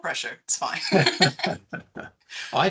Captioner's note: laughing